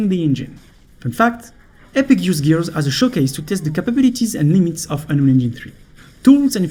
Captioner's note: gears